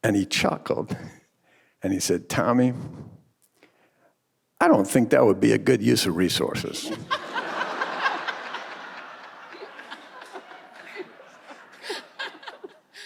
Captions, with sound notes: And he chuckled and he said, "Tommy, I don't think that would be a good use of resources." (audience and panelists laughing)